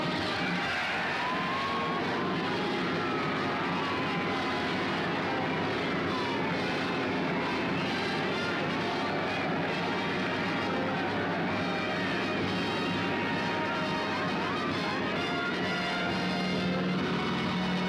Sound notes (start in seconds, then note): 1.4 all cheering